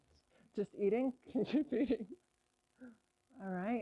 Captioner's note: laughs